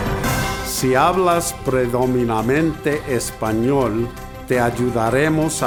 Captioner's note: speaks in foreign language